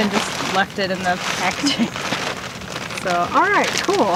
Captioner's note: laughs